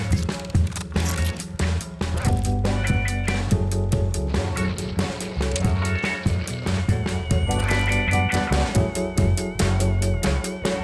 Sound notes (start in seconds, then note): 0.1 projector clicking; 4.2 footsteps